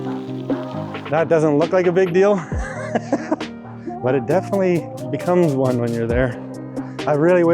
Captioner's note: laughing